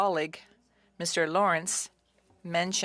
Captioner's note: speaking French